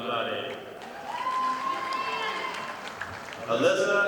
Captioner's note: audience applauding